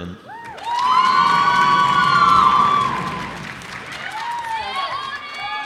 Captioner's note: cheers and applause